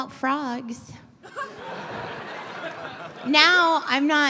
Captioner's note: laughter